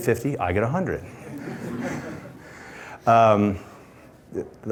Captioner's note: laughter